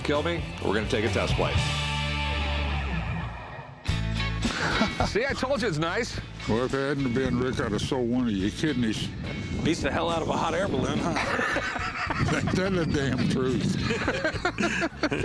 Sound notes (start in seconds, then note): 4.4 laughs; 11.1 laughter